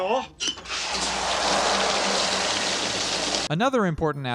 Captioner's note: fwoosh